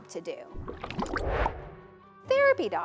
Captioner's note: water burbling; transition whooshes